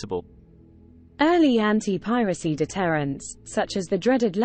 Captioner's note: british female voice